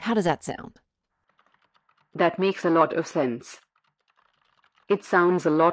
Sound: background SFX: Keyboard typing

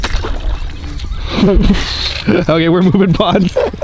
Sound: laughing

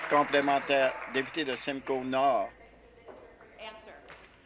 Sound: applause

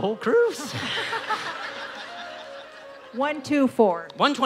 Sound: laughing

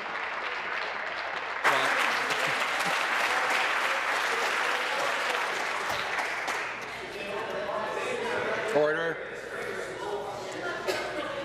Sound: applause

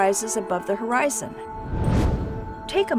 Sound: whoosh

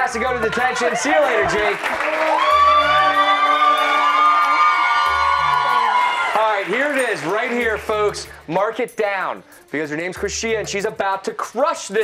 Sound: cheers and applause

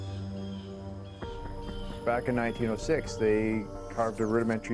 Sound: sonar pinging

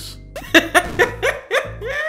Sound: laughing

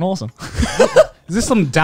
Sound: laughing

